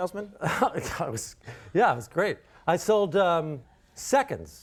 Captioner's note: laughs